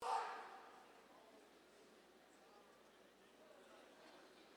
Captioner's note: crowd faintly chattering